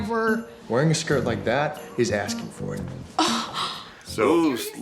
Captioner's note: gasps